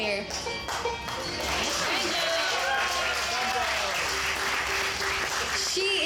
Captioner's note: audience cheering